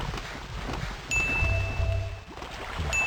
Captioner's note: ding; another ding